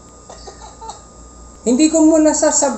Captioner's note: laugh in the background